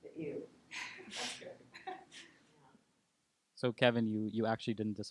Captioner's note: laughing